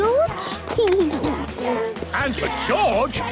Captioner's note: George snorts; giggles